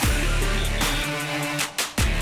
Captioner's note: referee whistle